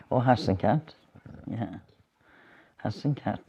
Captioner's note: none